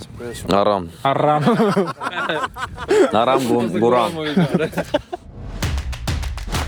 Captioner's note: crowd chanting